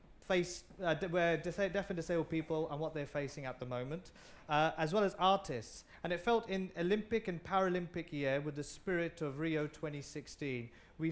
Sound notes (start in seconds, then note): none